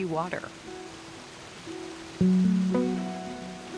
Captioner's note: water rushing